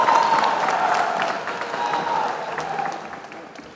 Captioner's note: applause